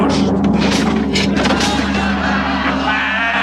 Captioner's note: men laughing